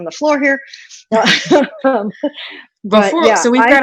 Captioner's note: chuckles